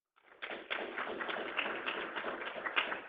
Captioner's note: applause